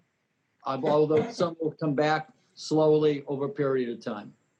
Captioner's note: words distort